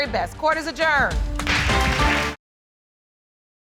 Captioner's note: audience applauds